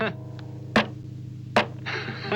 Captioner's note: chuckling; thudding; laughing